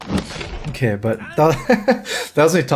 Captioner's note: laughs